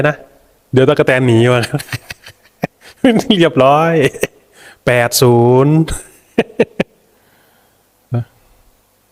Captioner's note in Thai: เสียงหัวเราะ